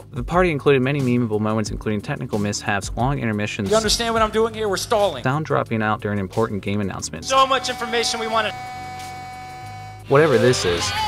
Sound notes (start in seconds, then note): 8.8 buzzing